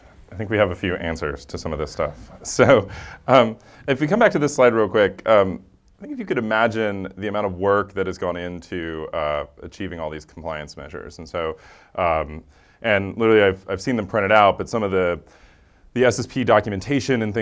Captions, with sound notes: I think we have a few answers to some of this stuff. [LAUGH] So, if we come back to this slide real quick. If you could imagine the amount of work that has gone into achieving all these compliance measures. And so, and really, I've seen them printed out, but some of the SSP documentation and